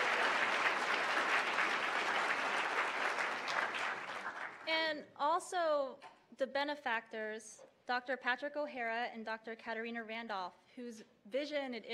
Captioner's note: applause